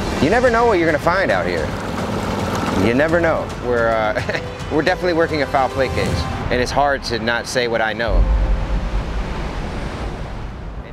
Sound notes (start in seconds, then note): 4.0 chuckles